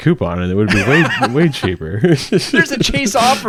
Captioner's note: laughs